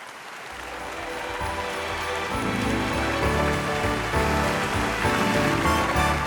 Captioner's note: audience cheering; upbeat bright music